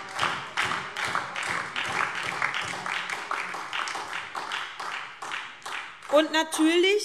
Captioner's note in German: Beifall SPD und DIE LINKE - Zurufe